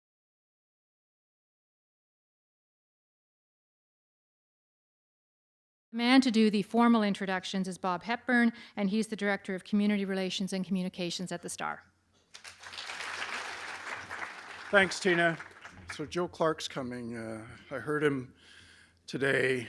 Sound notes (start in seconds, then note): 12.3 applause